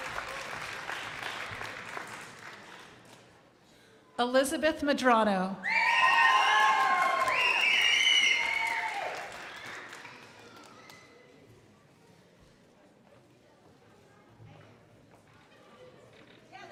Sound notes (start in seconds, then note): 0.0 crowd applauding; 5.8 crowd applauding